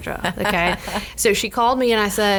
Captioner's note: woman host laughing